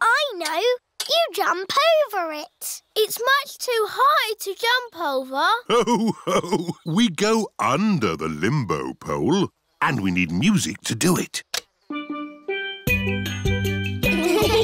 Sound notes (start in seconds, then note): 5.6 laughs; 11.8 steel band